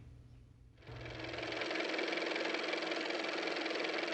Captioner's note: car motor